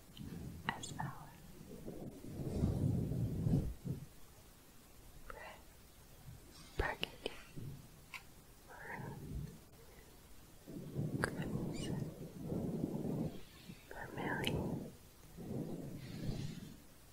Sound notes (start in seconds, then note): 0.0 windy sounds; 1.9 windy sounds